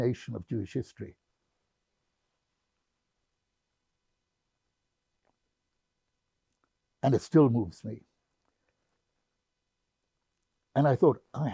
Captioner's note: pauses 6 seconds